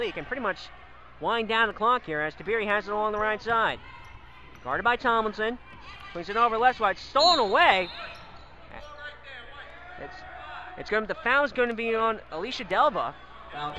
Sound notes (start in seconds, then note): 7.1 whistle blows